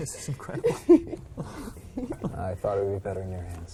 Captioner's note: all laughing